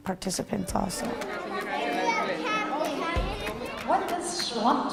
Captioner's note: chatter among parents and kids